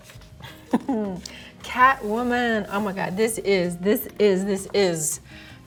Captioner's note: chuckles